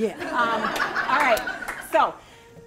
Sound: laughing

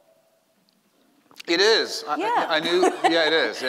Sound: laughing

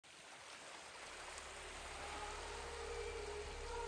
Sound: water splashing

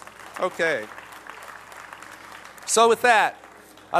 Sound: applause

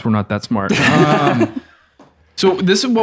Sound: everyone laughs

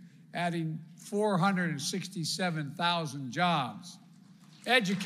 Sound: applause

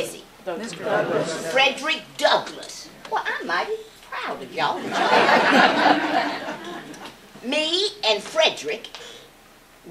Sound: laughter

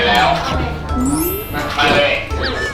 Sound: nom nom

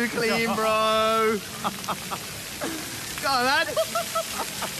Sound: laughing

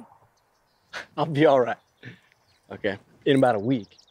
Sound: chuckles

